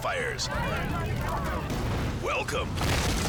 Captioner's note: firefighters chattering